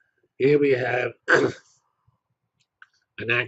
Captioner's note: cough